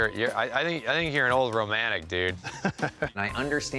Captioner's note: laughs